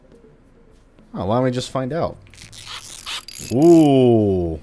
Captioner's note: one last tinkering noise